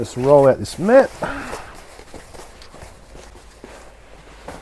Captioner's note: grunting